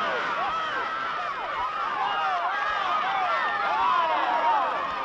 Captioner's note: shouting